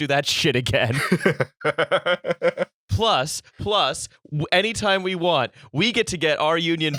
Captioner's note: laughter